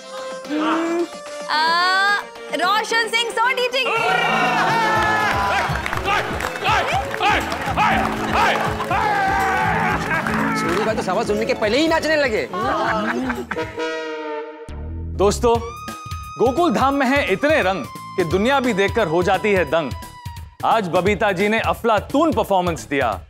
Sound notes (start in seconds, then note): 4.6 applauding